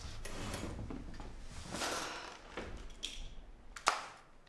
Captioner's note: chair scrapes